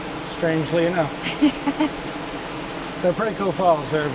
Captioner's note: laughs